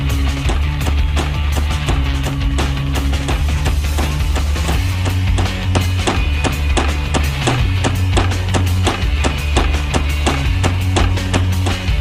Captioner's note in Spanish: Pasos roboticos